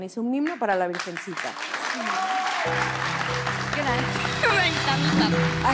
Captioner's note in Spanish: Aplausos